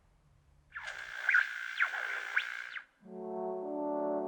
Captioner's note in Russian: шум радио